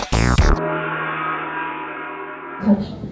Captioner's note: gong echoes